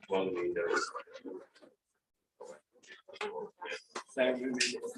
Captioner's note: background chatter